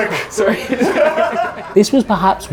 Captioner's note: group laughing